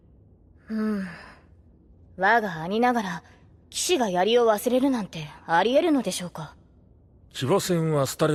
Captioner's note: sigh